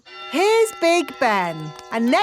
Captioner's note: clock chimes